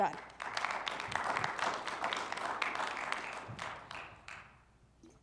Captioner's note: audience applauding